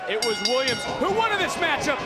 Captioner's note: bell rings